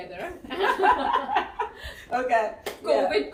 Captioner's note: laughs